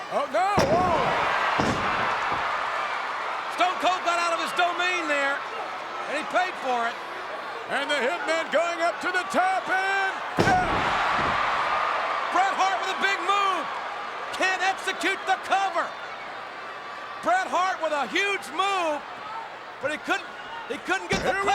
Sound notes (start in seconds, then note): 1.5 crowd cheering; 10.4 Bret Hart thudding